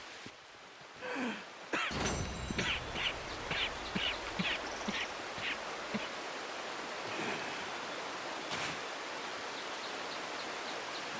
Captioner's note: Arthur stays, coughing, spitting and barely breathing